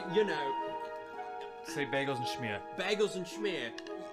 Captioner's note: British accent